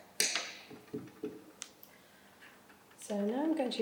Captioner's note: pencil clatters